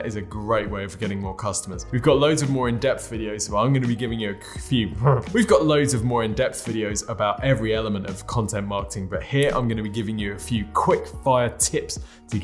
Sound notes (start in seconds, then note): 4.8 grunting